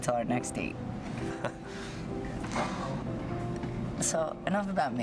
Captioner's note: chuckles